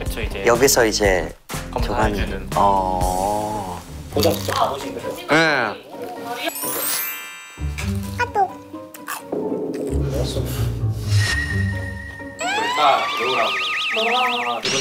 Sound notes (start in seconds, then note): 8.2 'sound of Kakaotalk incoming'